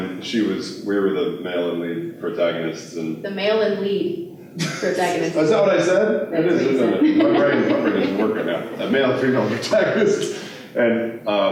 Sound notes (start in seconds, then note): 6.8 laughter